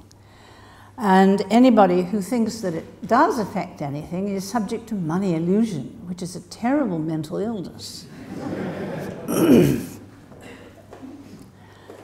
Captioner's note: laughter from audience